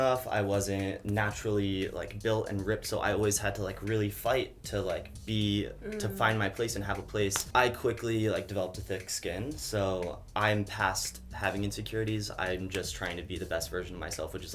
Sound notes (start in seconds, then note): none